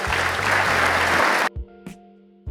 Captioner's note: applause